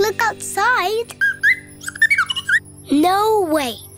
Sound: chirps

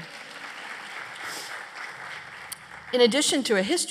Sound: applause

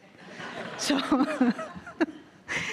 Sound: audience laughing; laughs

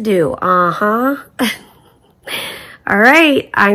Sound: chuckling

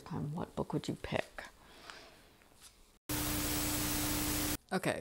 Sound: Static

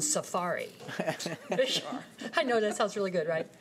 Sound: laughing

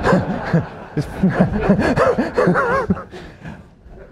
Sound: laughter

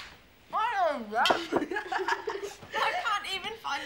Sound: children laughing

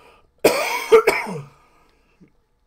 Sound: coughing

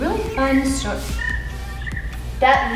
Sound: cricket chirping

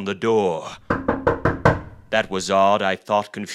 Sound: knocking

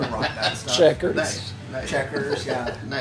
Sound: small Voice; chuckles

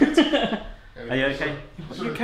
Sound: laughs

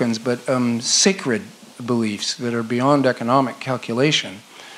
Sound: none

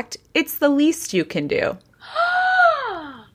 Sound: gasps

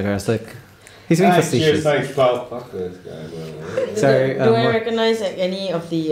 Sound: mumbles darkly

